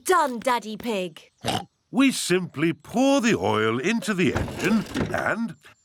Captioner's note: oinks